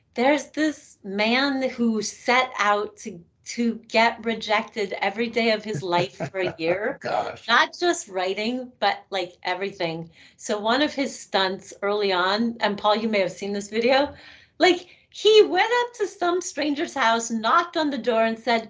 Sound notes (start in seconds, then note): 5.4 laughing